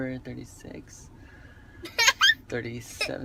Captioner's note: child giggles